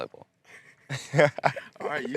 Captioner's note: laughing